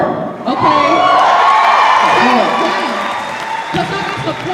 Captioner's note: applause